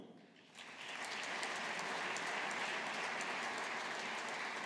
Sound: audience applauding

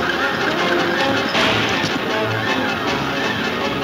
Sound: gun firing

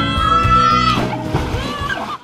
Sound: water splashing; kids laughing

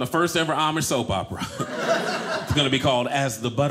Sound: audience laughing

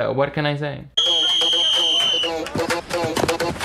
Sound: whistle blows; upbeat music

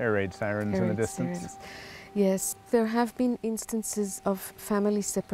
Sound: air raid sirens

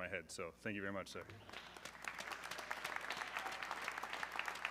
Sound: audience clapping

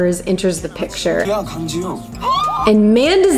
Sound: speaking in foreign language

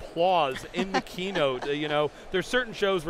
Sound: laughing

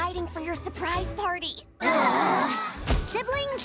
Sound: siblings groaning

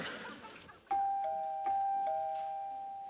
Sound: doorbell

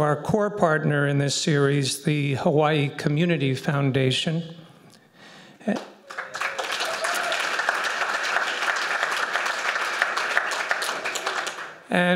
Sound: applause

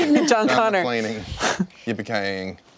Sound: chuckles

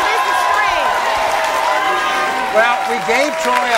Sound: audience cheering

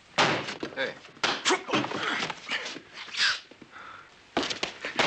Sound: men grunting

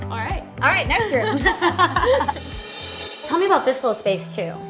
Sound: both laugh

